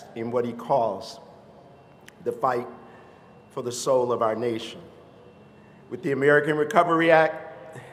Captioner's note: none